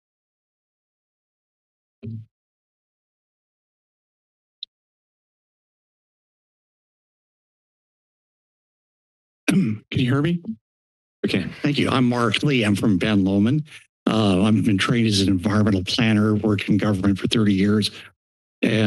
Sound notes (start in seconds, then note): 2.0 mic thumps; 9.4 clears throat